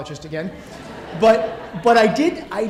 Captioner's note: audience laughing